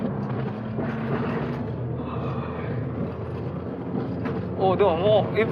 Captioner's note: yawning